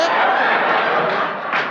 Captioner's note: audience laughing; faintly speaking